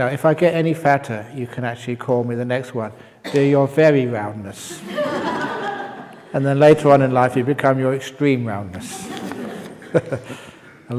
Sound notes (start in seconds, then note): 4.8 laughs; 8.8 laughs